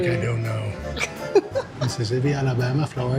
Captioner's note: laughing